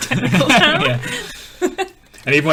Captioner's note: laughing